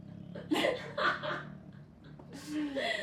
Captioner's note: they laugh